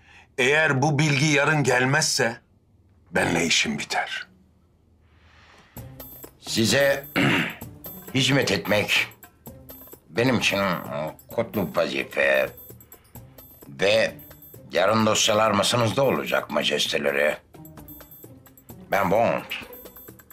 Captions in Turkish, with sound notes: Eğer bu bilgi yarın gelmezse... ...benimle işin biter. Size... (Boğaz temizleme sesi) ...hizmet etmek... ...benim için kutlu vazife... ...ve yarın dosyalar masanızda olacak majesteleri. Ben Bond.